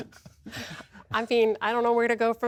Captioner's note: laughter